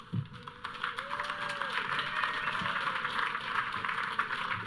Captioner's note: audience cheering